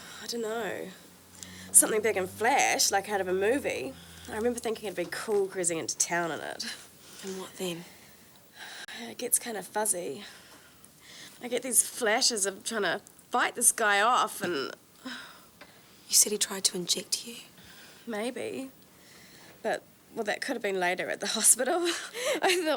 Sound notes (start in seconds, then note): 8.9 sighs; 15.3 victim sighs; 22.1 laughs